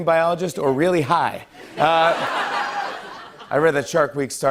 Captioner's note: laughter